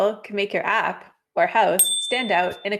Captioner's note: bell chimes